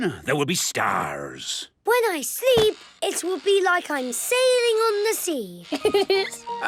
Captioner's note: laughing